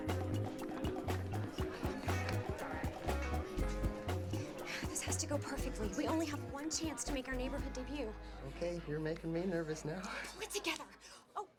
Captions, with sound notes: OH, THEY'RE GONNA HAVE A WEEKEND RENDEZVOUS. LOOK OUT. (laughter and indistinct conversations) THIS HAS TO GO PERFECTLY. WE ONLY HAVE ONE CHANCE TO MAKE OUR NEIGHBORHOOD DEBUT.